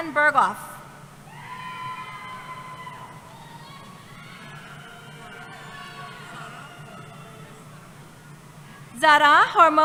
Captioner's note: cheering